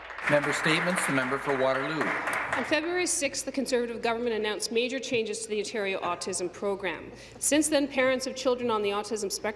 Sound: some Applause

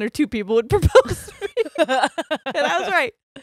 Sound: both laugh

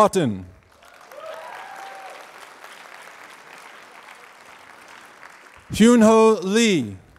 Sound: applause

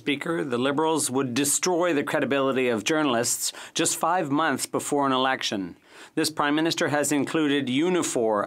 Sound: speaking French

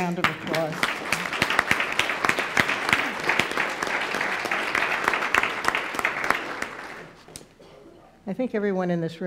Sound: applause

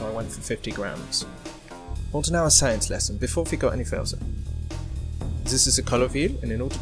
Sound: German Accent

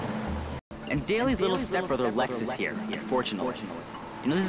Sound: echoing

